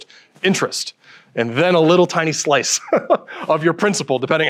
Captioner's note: chuckles